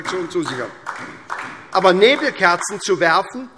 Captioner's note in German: Vereinzelter Beifall SPD